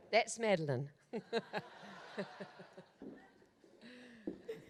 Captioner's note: audience laughs